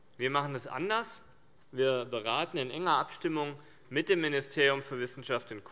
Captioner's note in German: none